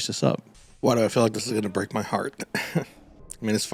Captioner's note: small laugh